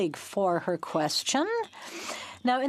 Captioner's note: speaking in French